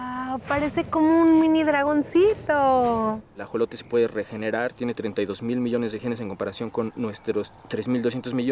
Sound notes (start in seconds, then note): 0.2 speaking Spanish